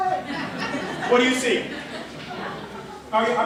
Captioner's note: laughter